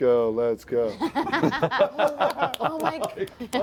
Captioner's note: laughter